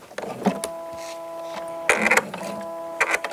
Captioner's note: rattling, short creaking